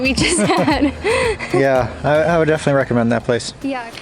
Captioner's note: laughs